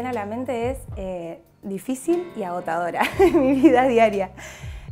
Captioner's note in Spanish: risas